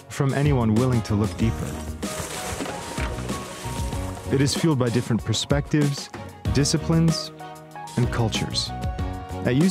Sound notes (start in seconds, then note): 1.9 water splashing